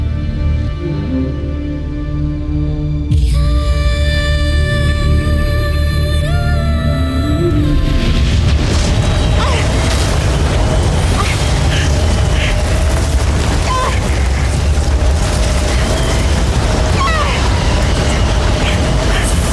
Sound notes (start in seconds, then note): 0.0 mystical music playing; 2.9 ethereal music playing; 8.0 whirlwind gushing; 9.3 groaning